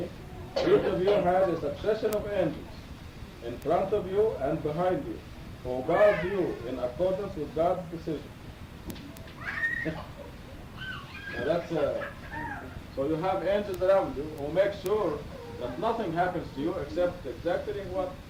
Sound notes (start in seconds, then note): 9.3 screaming